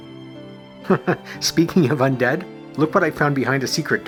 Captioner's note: chuckles